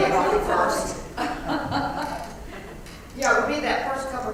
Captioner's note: laugh